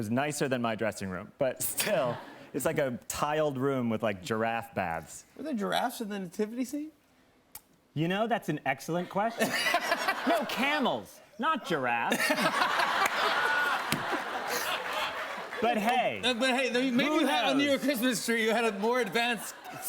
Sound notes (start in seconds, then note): 12.0 laughter